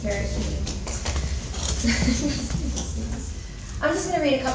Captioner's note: chuckles